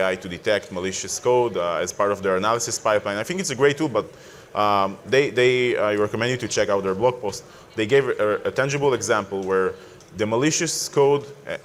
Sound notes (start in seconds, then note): none